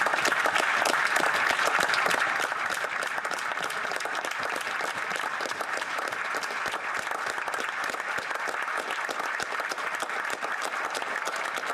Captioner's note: applause